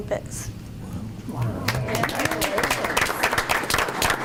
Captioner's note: group applauds